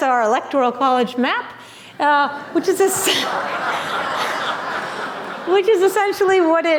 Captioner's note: laughter